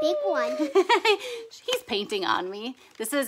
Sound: laughs

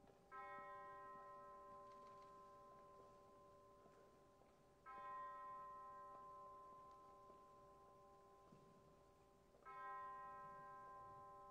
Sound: bells tolling

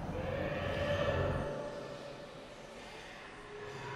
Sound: distant shriek

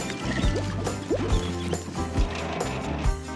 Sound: hammers Banging; cement Splashing

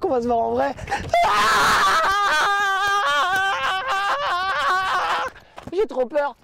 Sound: screaming

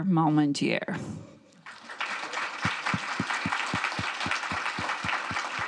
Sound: audience clapping

